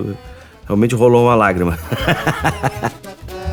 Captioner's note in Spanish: risas